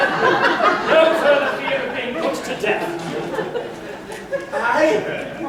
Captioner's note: laughter